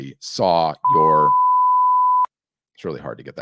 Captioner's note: oud beeping